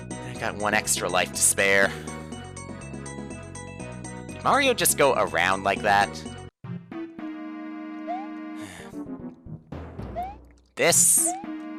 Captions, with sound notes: I got one extra life to spare. Did Mario just go around like that? (*sigh*) This?